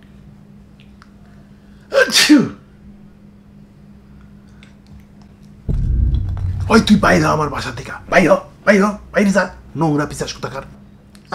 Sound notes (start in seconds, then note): 1.9 sneezed